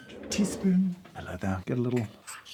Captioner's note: grinder whirring; chair rolls